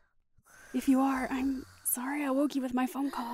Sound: slow breaths

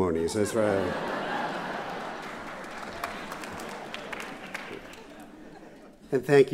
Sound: laughter

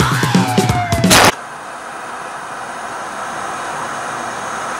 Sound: static hissing

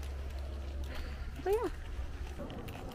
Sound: sighs

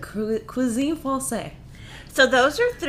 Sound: speaking foreign language

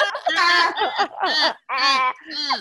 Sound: laugher

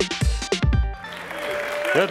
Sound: applause

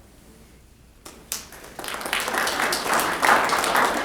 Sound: applause

